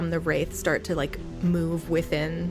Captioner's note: Wraith sucking sounds